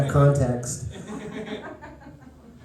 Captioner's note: laughter